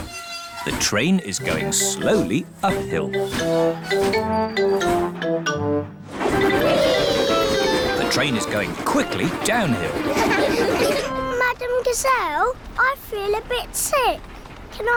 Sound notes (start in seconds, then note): 10.0 laughter